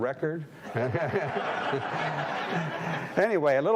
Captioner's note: audience laughing